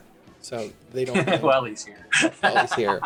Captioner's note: laughs